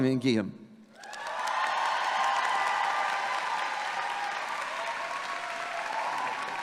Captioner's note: audience clapping and cheering